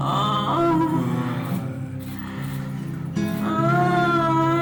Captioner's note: moaning